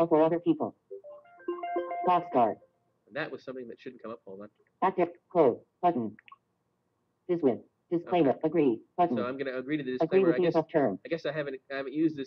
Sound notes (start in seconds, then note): 5.5 Siri talking